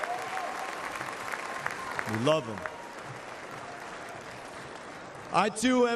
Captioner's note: cheers and applause